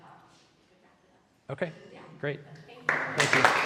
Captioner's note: applause